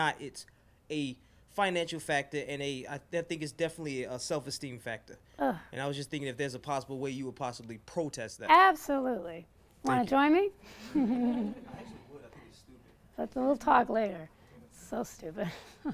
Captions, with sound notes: It's a financial factor and I think it's definitely a self-esteem factor. (groans) And I was just thinking if there's a possible way, you would possibly protest that. - Absolutely, want to join me? (laughs) - [Voiceover] I actually would. I think it's stupid. - We'll talk later. It's so stupid.